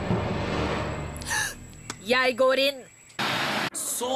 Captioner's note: inhales deeply